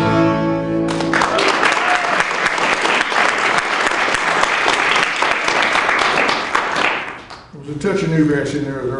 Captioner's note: applause